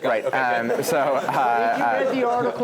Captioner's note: laugh